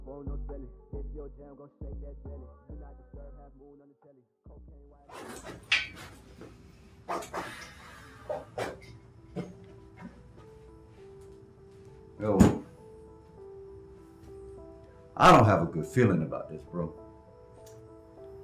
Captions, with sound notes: (indistinct rap music) (zipper zipping) (soft music) - I don't have a good feeling about this bro.